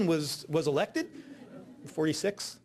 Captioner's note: audience laughing